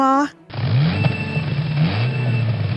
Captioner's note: engine starting